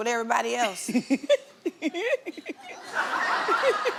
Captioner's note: laughing